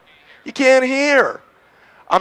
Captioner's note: male Voice